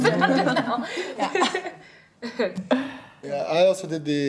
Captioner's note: laughing